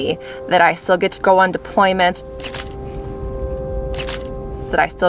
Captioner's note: camera shutter clicking